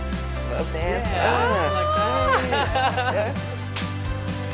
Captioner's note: chuckles